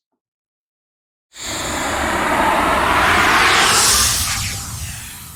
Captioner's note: logo whooshing